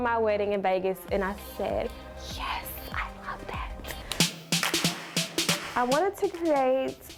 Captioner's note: whispering